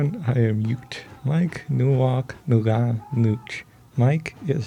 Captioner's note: speaking Ute language